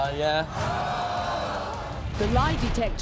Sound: audience gasps; voiceover

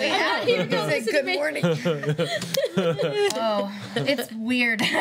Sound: laughing

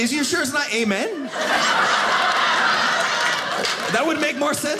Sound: audience laughing

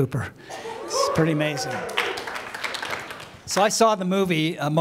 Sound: applause

